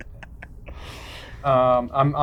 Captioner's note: laughing